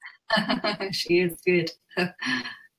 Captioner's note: laughs